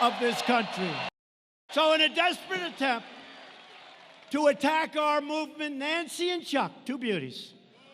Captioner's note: cheers, applause